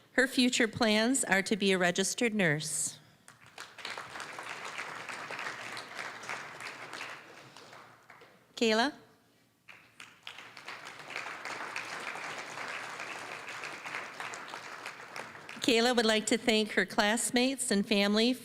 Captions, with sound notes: Her future plans are to be a registered nurse. (applause) Kayla. (applause) Kayla would like to thank her classmates and family